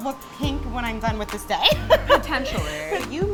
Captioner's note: laughs